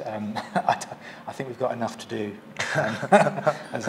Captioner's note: both laugh